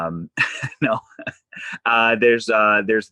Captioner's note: chuckles